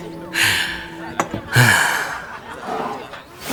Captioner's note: sigh